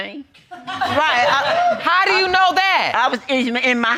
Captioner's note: audience whooping